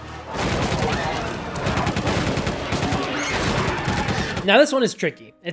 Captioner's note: gun shots